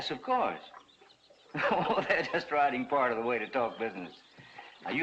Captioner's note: chuckling